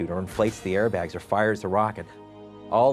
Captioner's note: none